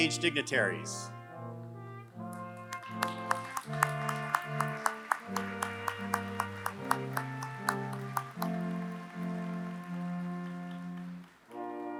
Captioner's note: applause